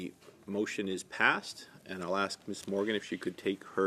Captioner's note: speaking French